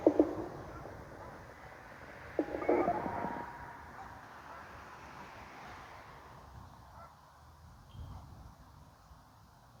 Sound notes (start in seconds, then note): 2.3 telephone noise